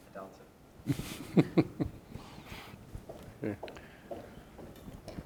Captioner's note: chuckling